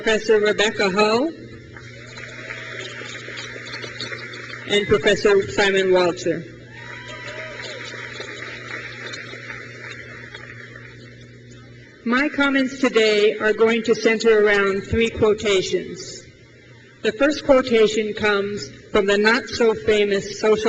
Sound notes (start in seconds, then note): 1.7 crowd claps; 6.6 crowd cheers